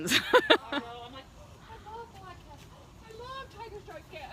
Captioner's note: laughter